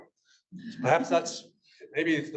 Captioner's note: audience chuckles